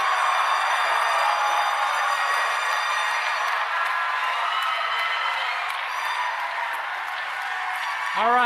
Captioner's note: applause